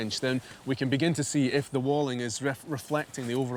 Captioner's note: none